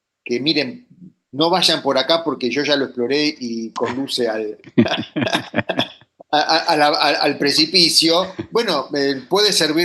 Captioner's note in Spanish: risas